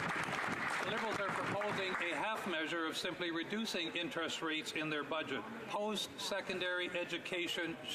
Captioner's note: some Applause